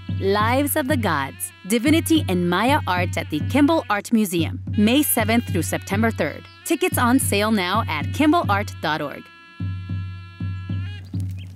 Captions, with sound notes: "Lives of the Gods: Divinity in Maya Art" at the Kimbell Art Museum, May 7th through September 3rd. Tickets on sale now at kimbellart.org. (energetic music) (birds chirping)